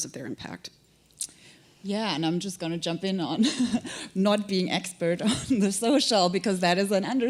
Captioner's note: chuckle